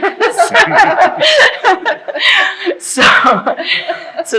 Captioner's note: laughing